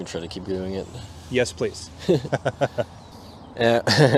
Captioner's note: both laugh